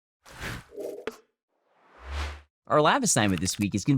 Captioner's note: scene whooshes